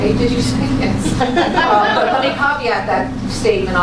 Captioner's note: laughter